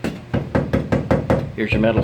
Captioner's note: banging